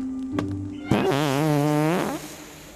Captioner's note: farting